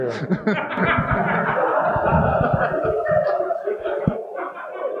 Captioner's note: audience laughing